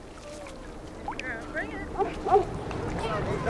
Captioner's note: distant voices and barking